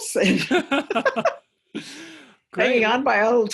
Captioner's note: laughter